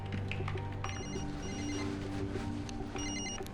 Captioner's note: cell phone ringing